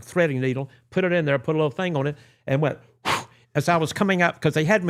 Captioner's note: whooshing